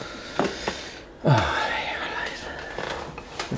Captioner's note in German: Er seufzt